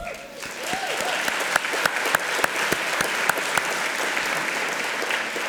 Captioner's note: applause